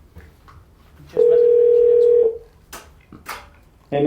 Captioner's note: phone rings